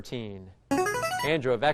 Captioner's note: chiming